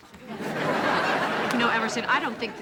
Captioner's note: audience laughing